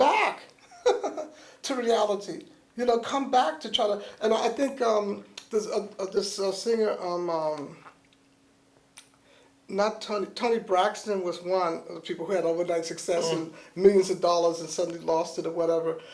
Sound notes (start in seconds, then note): 0.6 laughs